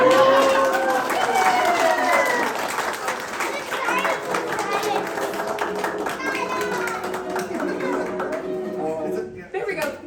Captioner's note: applause